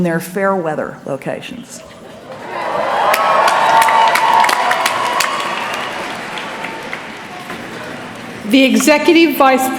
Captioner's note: cheering